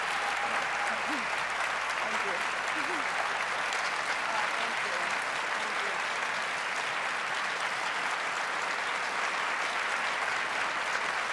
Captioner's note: applause